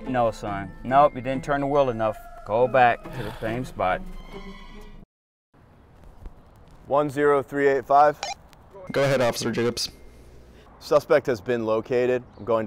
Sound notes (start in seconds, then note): 3.1 son sighs; 8.2 radio beeps